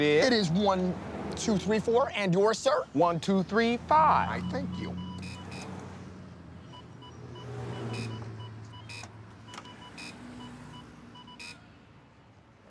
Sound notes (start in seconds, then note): 5.0 ATMs beeping